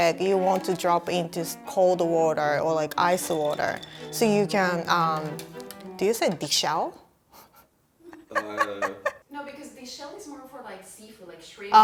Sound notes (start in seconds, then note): 8.0 laughter